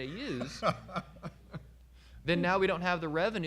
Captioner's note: laughing